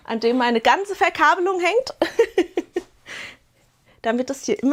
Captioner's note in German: Gelächter